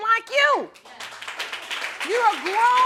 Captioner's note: audience applauding